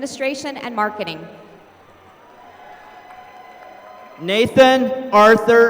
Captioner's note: applause